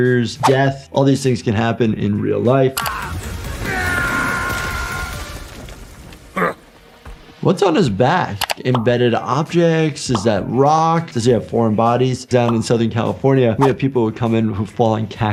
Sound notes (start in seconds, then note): 3.0 yelling